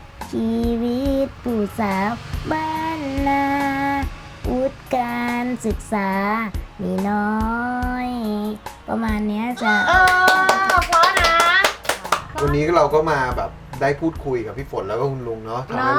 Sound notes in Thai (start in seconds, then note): 9.6 เสียงปรบมือ